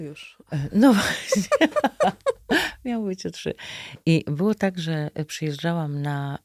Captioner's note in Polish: śmiech